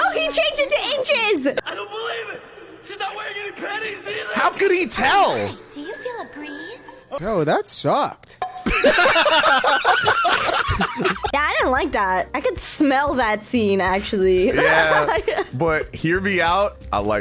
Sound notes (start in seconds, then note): 8.7 everyone laughing